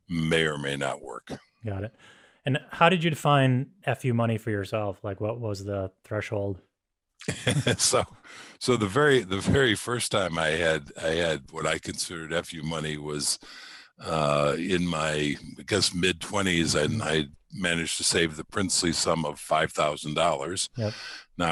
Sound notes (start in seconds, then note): 7.2 laughs